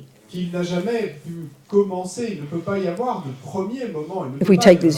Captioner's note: audience member speaks in French